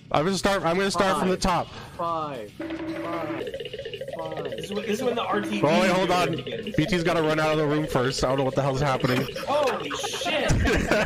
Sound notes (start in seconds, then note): 2.6 silly Cartoon Running Sound Effect